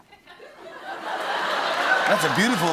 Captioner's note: laughter